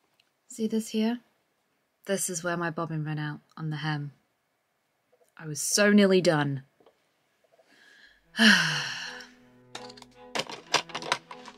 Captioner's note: sighs